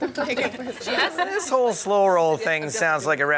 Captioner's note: laughter